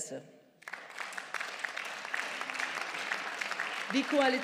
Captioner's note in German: Beifall